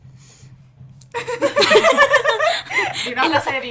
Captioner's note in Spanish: risas